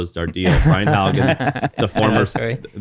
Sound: laughing

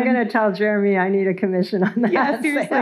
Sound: chuckles

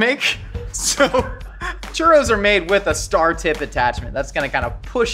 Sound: laughs

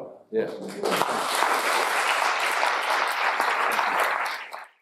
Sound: audience applauding

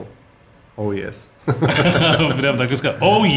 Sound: both laughing

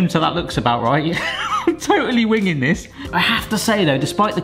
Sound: laughs

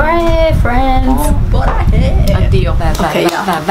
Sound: aggressive

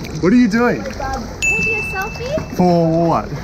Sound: ding

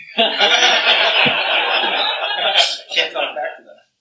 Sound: laughter

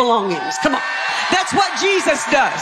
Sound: audience cheering

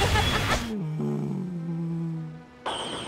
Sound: Ash laughs; groaning

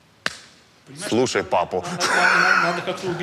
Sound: laughs

